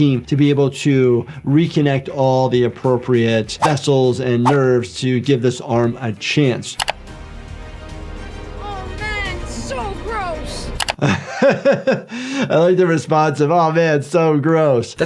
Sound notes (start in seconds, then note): 6.8 screen clicking; 10.8 screen clicking; 11.0 Jordan laughing